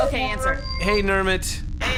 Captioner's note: start-transmission noise